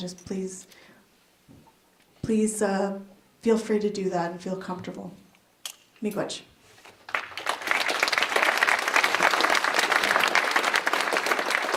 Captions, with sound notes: feel free to do that and feel comfortable. (applause)